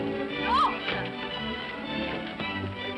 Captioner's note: upbeat music; woman exclaims